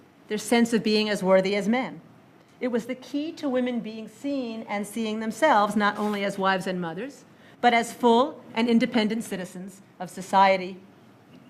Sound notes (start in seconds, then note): none